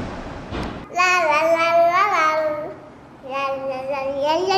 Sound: babbles

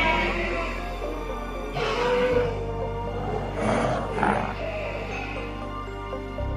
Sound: parasaurolophus screeching

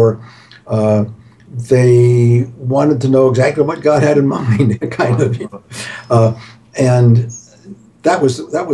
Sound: laughs

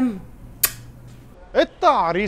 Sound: blows kiss

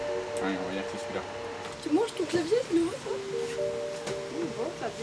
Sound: speaking in a foreign language

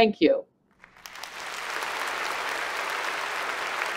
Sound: applause

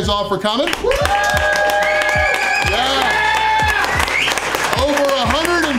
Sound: crowd cheering

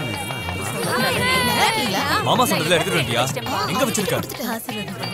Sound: indistinct chatter

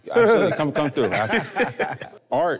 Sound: everyone laughing amusingly

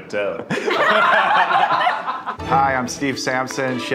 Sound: laughing

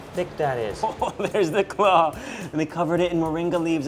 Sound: laughs

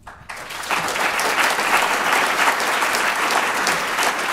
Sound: applause

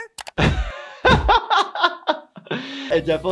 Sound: laughs

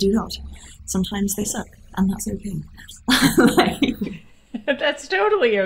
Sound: laughs

